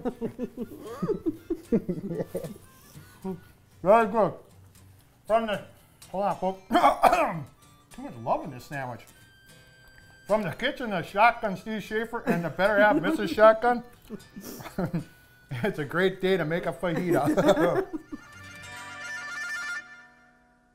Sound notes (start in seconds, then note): 0.0 laughing; 6.7 clears throat; 16.8 laughing